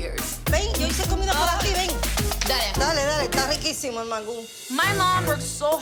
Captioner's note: speaking Spanish